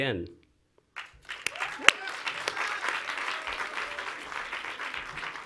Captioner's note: audience applauds